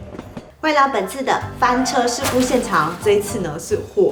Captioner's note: fire